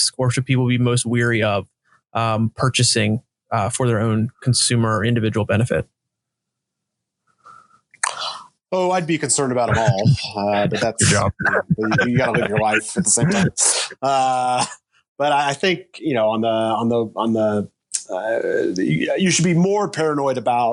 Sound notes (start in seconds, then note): 11.4 everyone chuckling; 16.5 chuckling